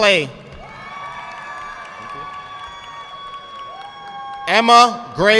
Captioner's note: audience clapping